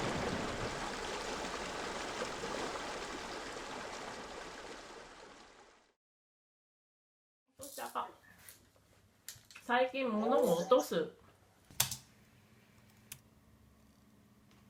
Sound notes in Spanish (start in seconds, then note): 7.3 SACHIKO hablando en japonés